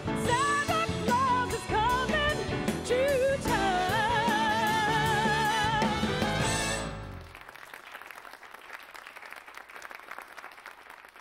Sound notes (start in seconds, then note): 7.1 audience applauding